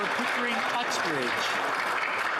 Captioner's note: some Applause